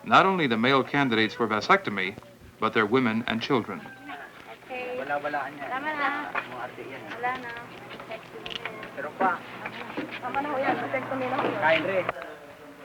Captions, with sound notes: not only the male candidates for vasectomy but their women and children. [Filipino speech] [Indiscriminate chatter]